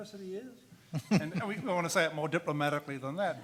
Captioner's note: man laughs